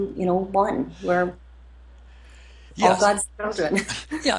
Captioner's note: laughs